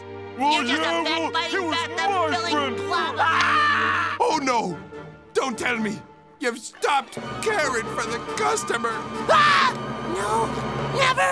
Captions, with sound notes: [arguing] He was my friend first! [screaming] Oh, no! Don't tell me you've stopped caring for the customer? Ah! No, never.